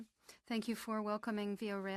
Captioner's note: speaking French